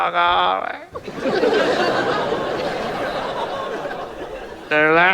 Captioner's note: audience laughs